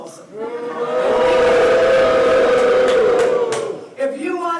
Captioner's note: jeering